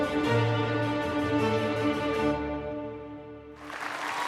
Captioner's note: applause; upbeat music